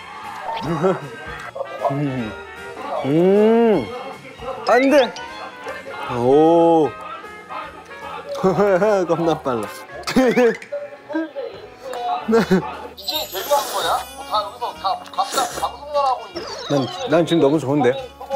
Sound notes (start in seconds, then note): 9.9 Guku's room full of happy laughter